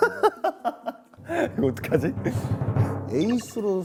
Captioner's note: laughing, but actually not